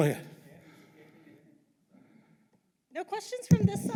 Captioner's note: audience chattering